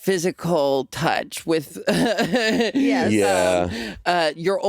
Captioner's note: chuckling